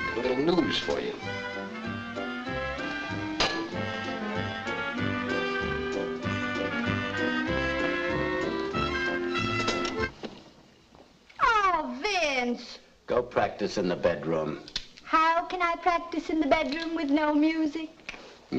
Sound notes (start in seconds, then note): 2.3 bright music; 9.9 music stops